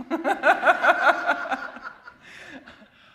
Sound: laughter

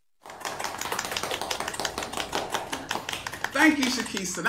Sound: audience clapping

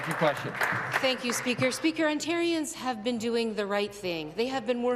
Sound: some Applause

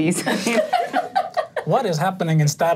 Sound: all laughing

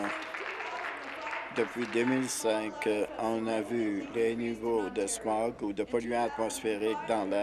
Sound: applause

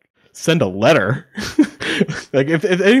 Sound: laughing

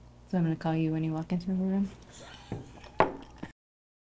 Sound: laughing

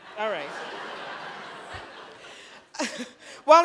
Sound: laughter

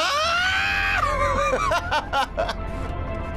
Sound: laughs

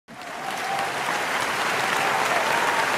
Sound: applause

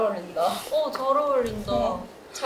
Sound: bang bang

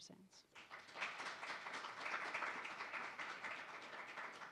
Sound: audience applauds

